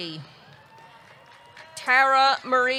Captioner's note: audience cheering